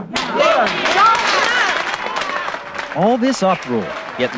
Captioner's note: crowd cheering and clapping